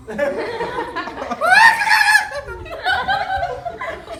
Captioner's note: excited clucking